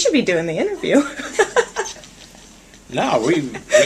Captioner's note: laughing